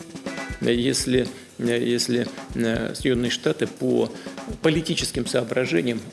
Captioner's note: Vladimir Putin speaking Russian